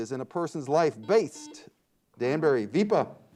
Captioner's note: buzzer beeps